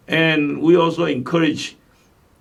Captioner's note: none